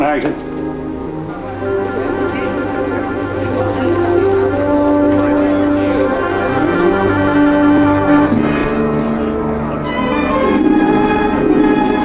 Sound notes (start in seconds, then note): 2.4 chatter; 8.4 dramatic music